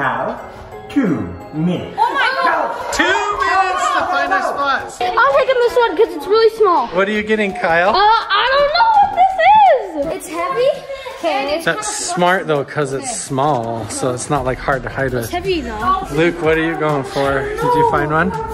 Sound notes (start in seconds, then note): 1.9 family yelling